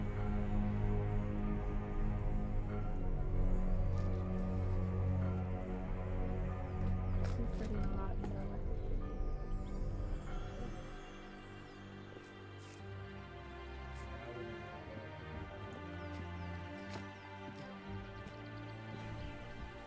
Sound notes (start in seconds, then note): 7.4 people mumbling